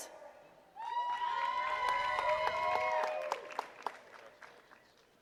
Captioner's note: attendees cheering and clapping